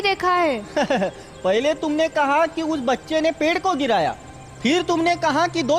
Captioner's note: laughs